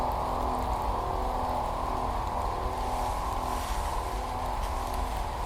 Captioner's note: none